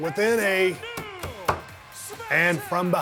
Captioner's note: Steve knocking on table